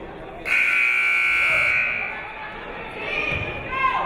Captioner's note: buzzer blares